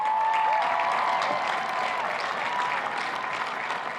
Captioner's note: cheers and applause